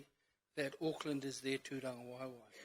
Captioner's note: speaks in foreign language